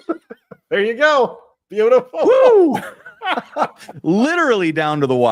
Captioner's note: laughter; laughter